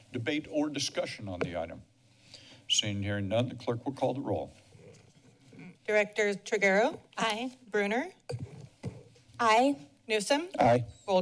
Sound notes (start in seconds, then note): none